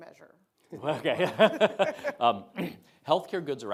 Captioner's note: Azar chuckling